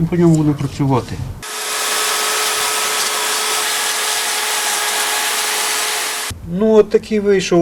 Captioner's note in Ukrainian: Працює електропилою